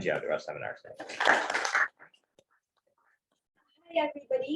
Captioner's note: applause